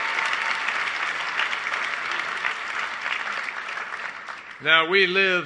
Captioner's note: applause